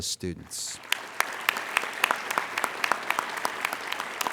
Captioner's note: applauding